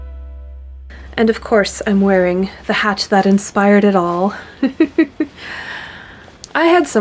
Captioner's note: music ends; giggles